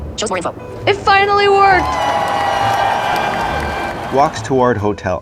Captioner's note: celebration noises and cheering